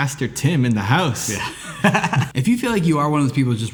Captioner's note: laughs